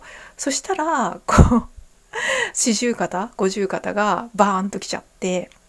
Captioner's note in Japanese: 笑い; 息をのむ音